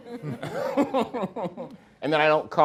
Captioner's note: everyone laughing